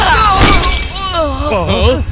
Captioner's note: crystal ball explodes